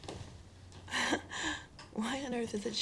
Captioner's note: chuckles